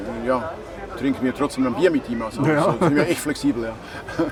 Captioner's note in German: lacht